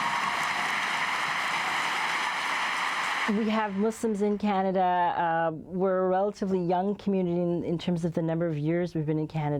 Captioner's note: cheers and Applause